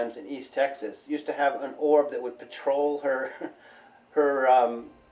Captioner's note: chuckles